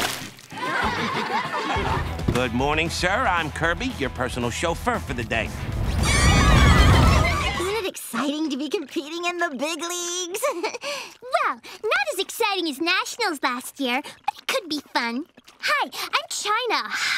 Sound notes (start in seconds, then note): 0.5 laughing; 5.9 screaming